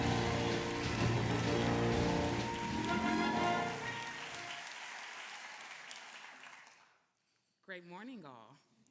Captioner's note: applause